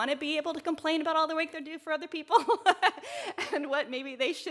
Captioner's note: chuckles